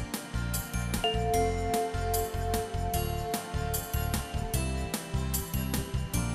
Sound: bell chimes

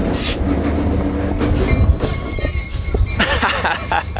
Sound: engine whirring; train screeching; laughs

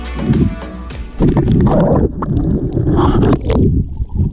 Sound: gurgling

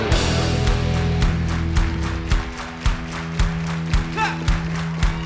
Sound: applause

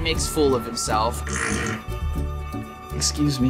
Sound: farts

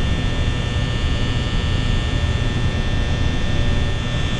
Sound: light buzzing

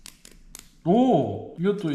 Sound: exclamation

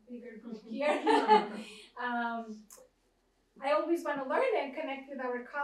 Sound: laughs

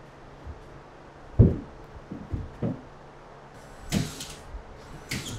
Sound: boards banging; nail gun thumping

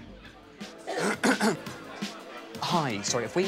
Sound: clears throat

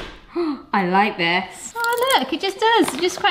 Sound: hammer banging; gasps

